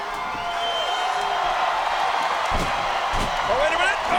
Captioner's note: audience cheers